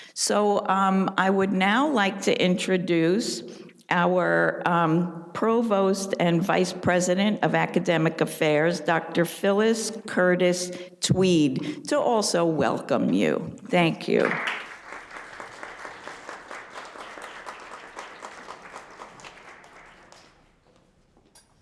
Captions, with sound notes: So I would now like to introduce our Provost and Vice President of Academic Affairs, Dr. Phyllis Curtis-Tweed, to also welcome you. Thank you. (audience applauding)